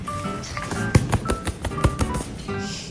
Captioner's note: pat on the back